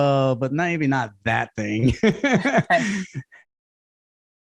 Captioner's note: laughs